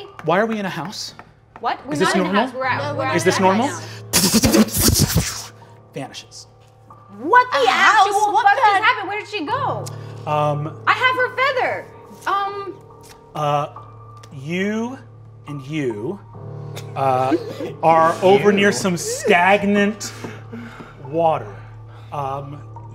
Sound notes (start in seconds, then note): 4.1 imitates magic sputtering; 12.1 spooky instrumental continues